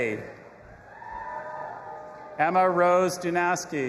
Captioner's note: audience applauding and cheering